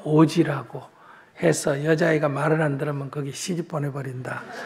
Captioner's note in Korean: 청중 웃음